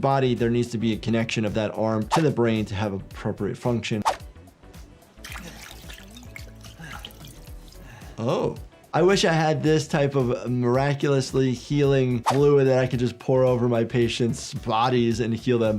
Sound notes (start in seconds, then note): 5.1 liquid sloshing; 5.2 player character panting